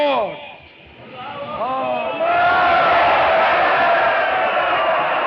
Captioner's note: all cheering